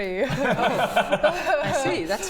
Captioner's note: innocent giggles